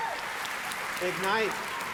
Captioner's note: clapping